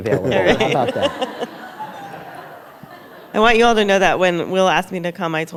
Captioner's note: laughter